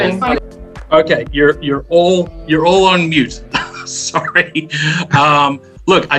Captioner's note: laughter